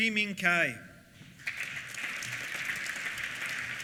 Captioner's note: applause